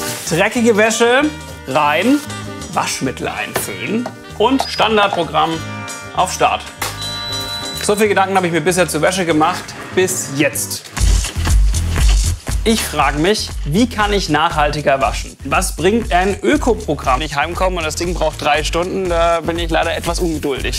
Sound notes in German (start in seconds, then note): 6.8 Piepsen; 10.8 Dynamische Musik